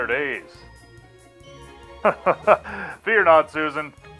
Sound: laughs heartily

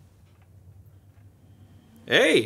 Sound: fan operating

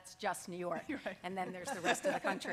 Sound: laughing

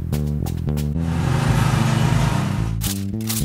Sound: sound of a running lawn mower

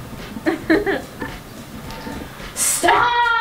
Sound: laughing

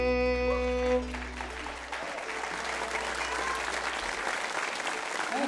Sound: audience applauds

